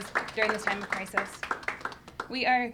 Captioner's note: audience applauding